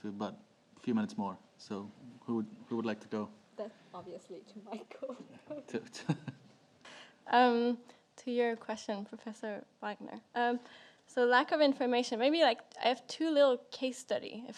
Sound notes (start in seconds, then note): 7.3 laughs